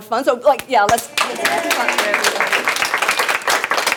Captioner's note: applaud